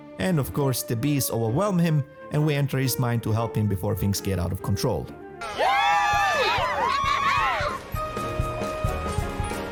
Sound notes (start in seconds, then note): 5.4 audience cheering